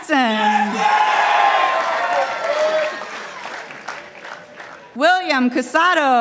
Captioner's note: participants applauding